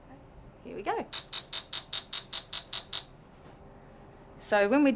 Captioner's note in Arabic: طنين الجهاز بشكل متناغم